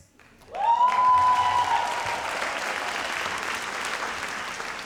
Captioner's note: audience applauds